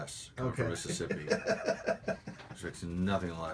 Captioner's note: laughter